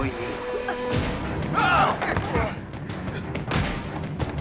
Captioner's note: grunting